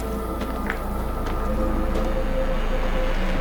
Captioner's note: foot steps on gravel